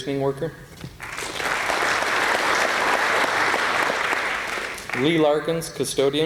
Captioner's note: applause